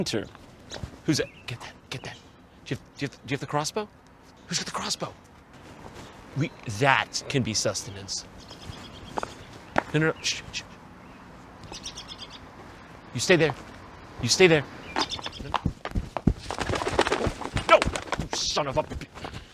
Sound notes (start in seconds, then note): 8.2 tweet tweet; 11.6 tweet tweet; 15.0 wings flapping